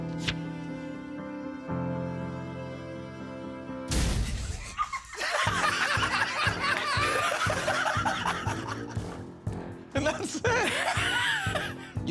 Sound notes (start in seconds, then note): 4.5 laughter; 8.9 laughing